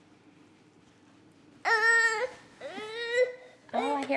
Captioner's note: starts crying